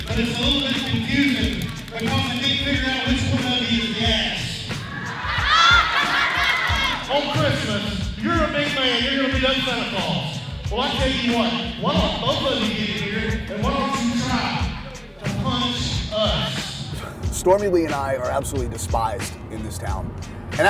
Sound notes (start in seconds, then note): 4.9 crowd laughing